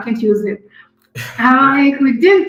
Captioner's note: laughs